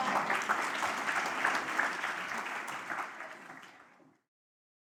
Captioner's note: applause